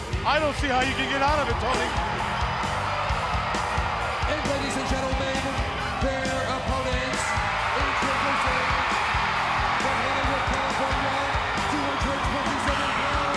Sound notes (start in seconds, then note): 0.0 upbeat music; 2.9 crowd cheering